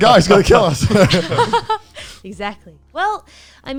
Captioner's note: laughs